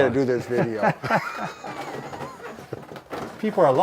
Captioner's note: men laugh